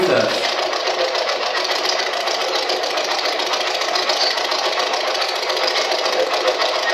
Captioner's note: white Noise